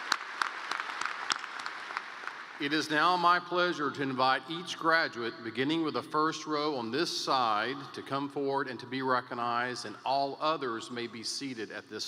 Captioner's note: applause